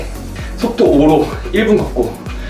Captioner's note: walking